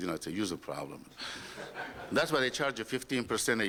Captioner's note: laughter